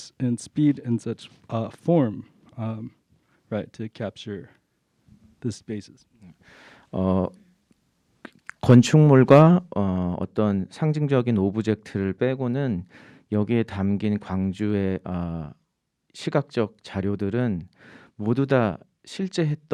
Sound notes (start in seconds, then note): 8.8 speaking in Korean